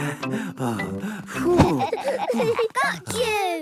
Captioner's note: all laughing; panting